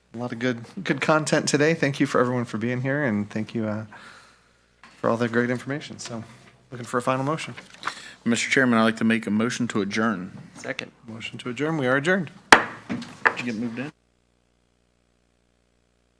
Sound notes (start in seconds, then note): 12.5 thumps loudly